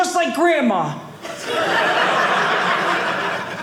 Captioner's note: audience laughing